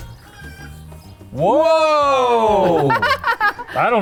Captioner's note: chickens cluck